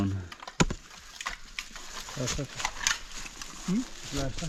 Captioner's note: leaves rustling